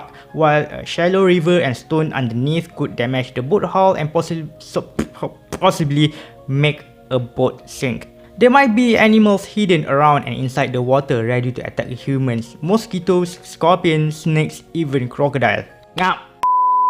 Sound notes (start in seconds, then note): 16.4 beep